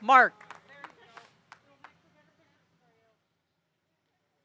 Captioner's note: audience applauding